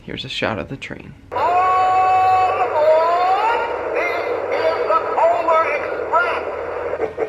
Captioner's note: train; train chugging